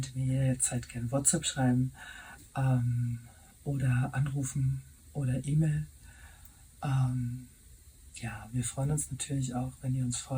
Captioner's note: in German and English